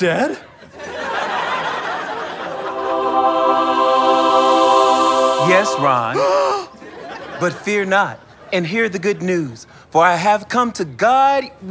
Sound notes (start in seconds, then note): 1.1 angelic chorus; 4.3 gasp